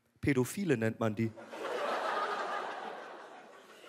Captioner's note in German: Lachen